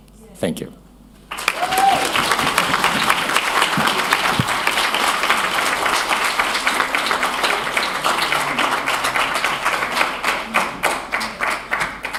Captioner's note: applause